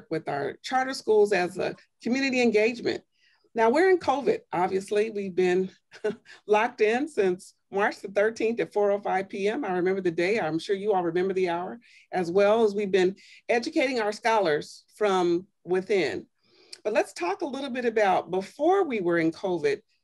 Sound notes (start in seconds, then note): 5.9 laughter